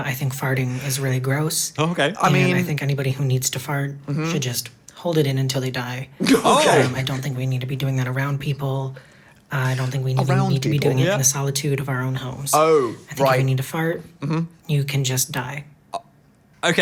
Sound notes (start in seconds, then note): 6.2 laughs